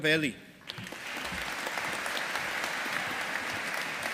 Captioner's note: audience applauding